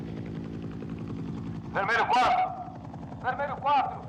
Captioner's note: man On Loudspeaker